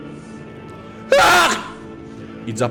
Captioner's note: scream